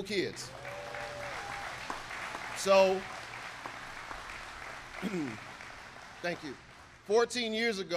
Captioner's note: applause